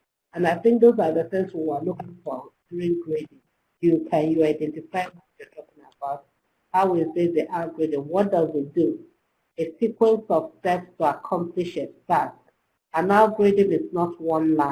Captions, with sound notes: and I think those are the things you are looking for, (electronic interference) how we see the algorithm, what does it do? If people obsess to accomplish it back an algorithm is not one line,